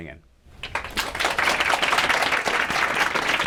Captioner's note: applause